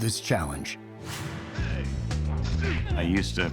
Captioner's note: characters exclaiming and grunting